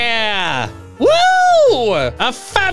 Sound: cheering

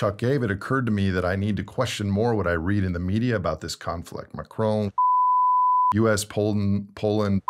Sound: beep

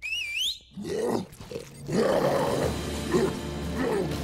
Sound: roaring

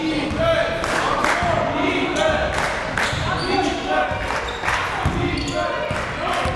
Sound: crowd

